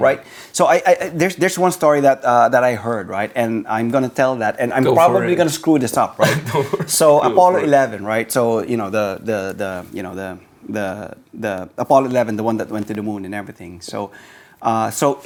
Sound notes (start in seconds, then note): 6.1 laughs